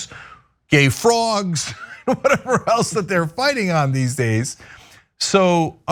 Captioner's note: laugh